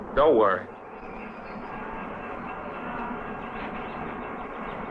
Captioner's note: train clattering; birds chirping